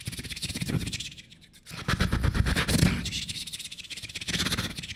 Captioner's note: beatboxing